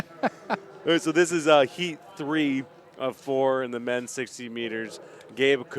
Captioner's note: laughter